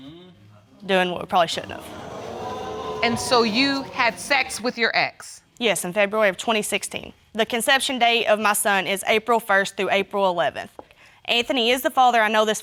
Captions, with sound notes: Doing what we probably shouldn't have. (AUDIENCE GASPING) And so you had sex with your ex? Yes, in February of 2016. The conception date of my son is April 1st through April 11th. Anthony is the father, I know this for a fact.